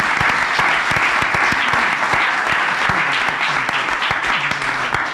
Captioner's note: applause